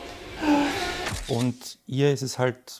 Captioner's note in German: Seufzen